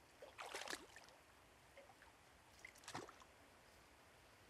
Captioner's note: water sloshing